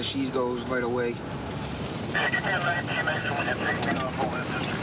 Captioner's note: garbled radio transmission